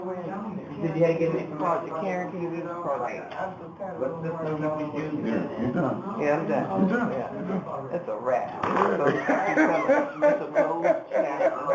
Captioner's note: background chatter